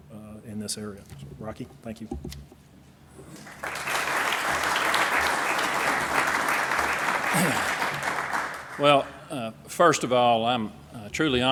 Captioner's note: applause